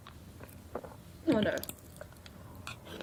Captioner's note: swallowing